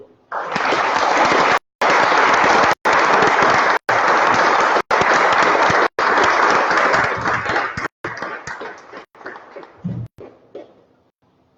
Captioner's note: applause